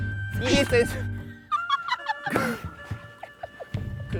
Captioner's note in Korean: 빵터짐